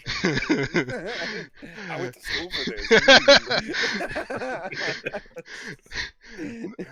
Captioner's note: laughing; laughter